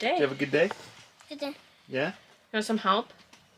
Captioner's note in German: murmelt